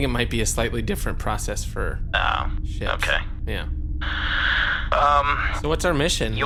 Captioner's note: sighs